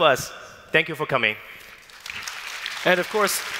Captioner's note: applause